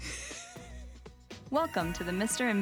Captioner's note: laughing